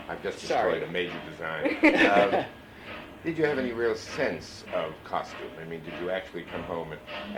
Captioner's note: laughter